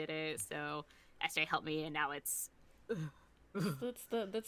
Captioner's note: gagging noises